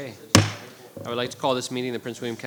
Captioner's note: gavel banging